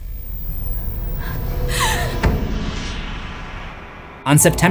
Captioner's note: scared panting